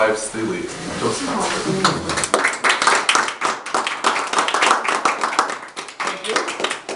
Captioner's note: audience clapping